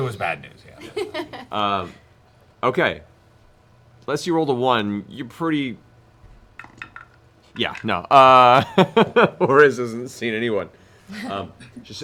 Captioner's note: laughs